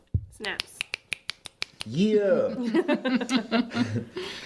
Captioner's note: snapping